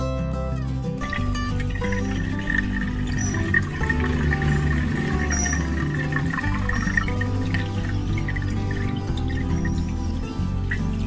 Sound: pouring water SOUND

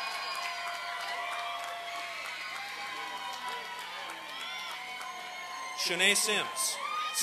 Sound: applause and cheering

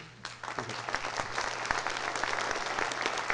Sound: applause

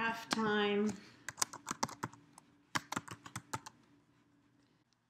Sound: typing

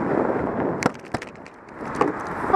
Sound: bangs some more

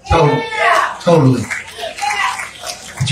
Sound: congregation clapping

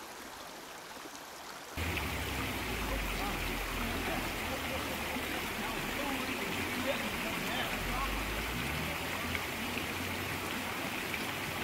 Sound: rushing water

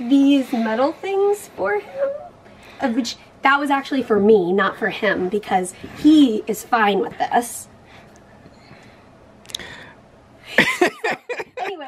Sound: laughs

